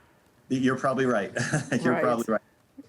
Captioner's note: laughing